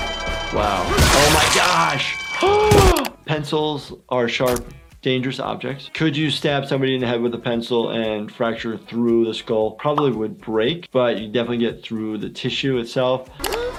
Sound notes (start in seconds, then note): 3.5 gasping